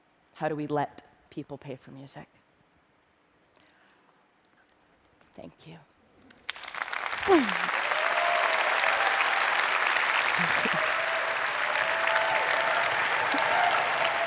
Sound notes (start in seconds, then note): 6.3 applause